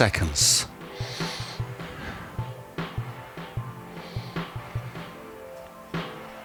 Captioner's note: inhale